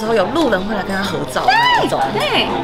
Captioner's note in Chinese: 尖叫